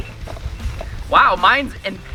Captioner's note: alarm rings